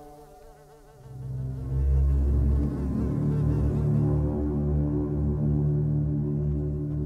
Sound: flies buzzing; dark foreboding music

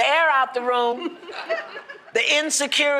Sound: laughter

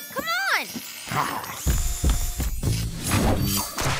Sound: pounding; midtempo music

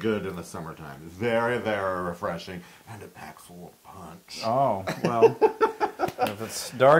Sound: laugh

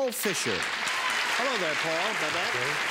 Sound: applause

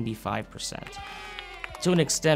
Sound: children cheering

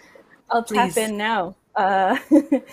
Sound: laughs

